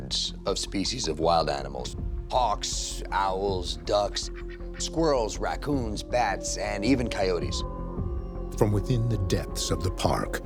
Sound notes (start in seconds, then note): 7.8 coyote howling